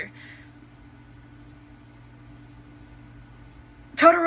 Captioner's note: prolonged silence of not knowing anything